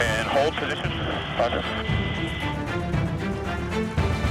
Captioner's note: man Over Radio; person Over Radio